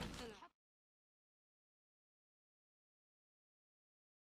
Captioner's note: silence